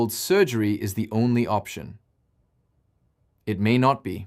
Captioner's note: pause